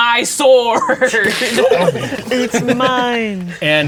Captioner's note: players laughing